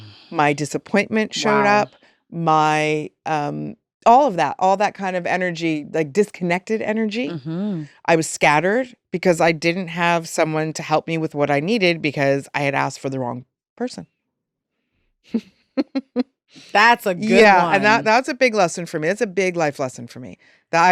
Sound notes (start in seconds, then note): 15.8 chuckles